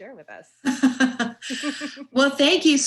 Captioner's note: both laugh